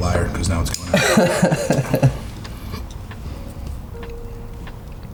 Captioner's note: all laughing